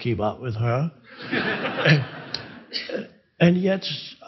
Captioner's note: crowd laughing